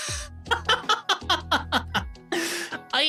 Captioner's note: laughing